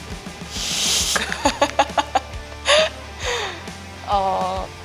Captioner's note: laugh